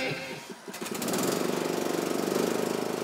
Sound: lawn mower starting up

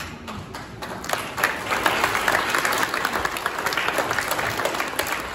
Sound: applause

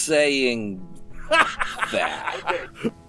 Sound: Magnar laughs

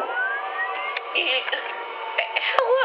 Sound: worried grunt

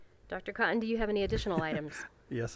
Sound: laughing

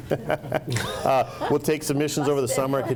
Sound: laughs

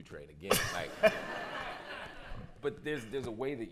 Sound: laughter

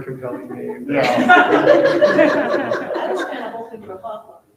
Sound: people laughing

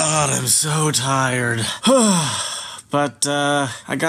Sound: sighs

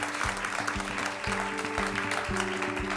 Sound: ^applause^

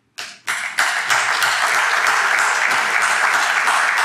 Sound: audience clapping

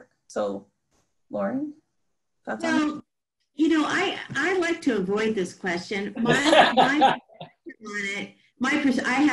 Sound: group laughter

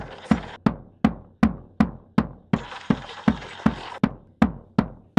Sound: radio interference crackles

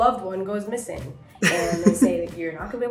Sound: Hyram laughing

